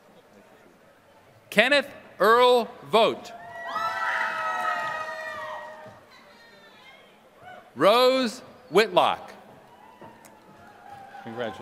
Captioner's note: applause